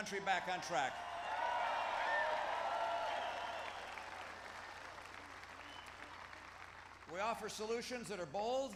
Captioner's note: applause